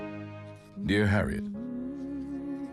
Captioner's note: woman humming underneath